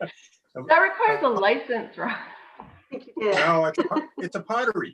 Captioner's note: committee laughs